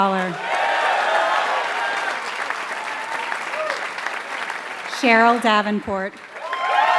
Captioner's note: applause